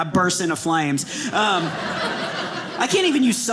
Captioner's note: audience laughing